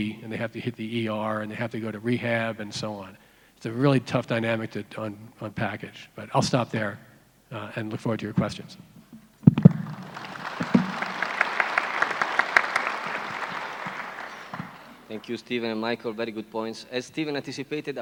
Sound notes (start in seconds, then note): 9.6 applauding audience